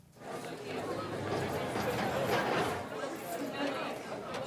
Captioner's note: background chatter